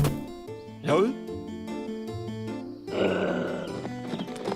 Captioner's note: growls